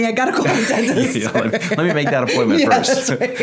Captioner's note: laughing